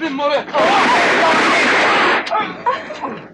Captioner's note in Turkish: Silah sesleri, çığlıklar